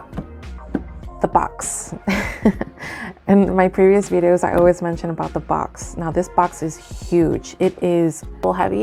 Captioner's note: giggles